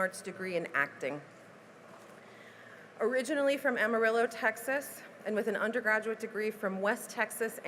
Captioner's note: none